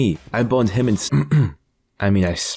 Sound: clearing throat

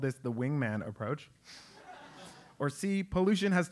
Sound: laugh

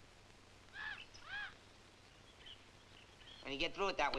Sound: chimps chittering; birds chirping

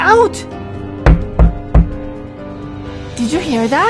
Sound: knock

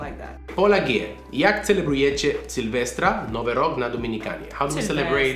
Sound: speaking in Polish

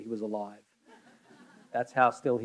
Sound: audience laughing

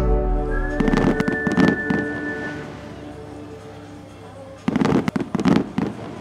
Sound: fireworks play throughout

